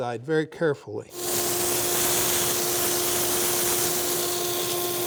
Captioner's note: machine hums